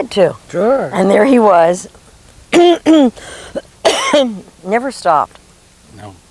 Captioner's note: clears throat